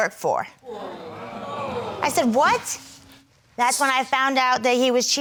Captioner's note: crowd gasping